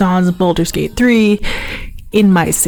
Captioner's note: inhales